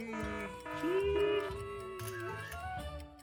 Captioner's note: alarm rings; camara clicks